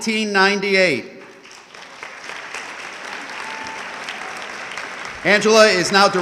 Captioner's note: audience clapping